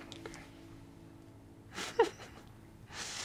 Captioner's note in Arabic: ضحك